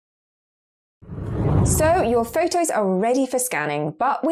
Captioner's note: video effect whooshes